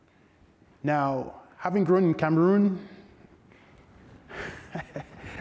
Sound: chuckles

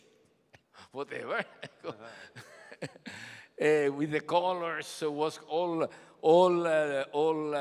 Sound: laughs

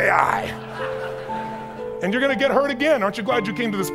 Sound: audience chuckles

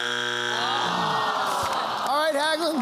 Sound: buzzer sounds; audience moans

